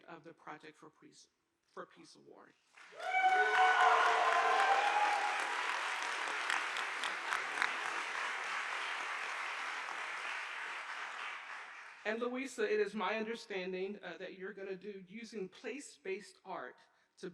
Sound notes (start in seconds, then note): 2.9 audience applauding